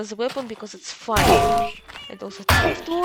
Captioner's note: frying pan hit sound